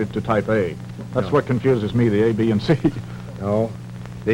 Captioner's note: chuckles